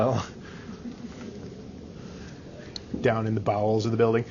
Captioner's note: all chuckling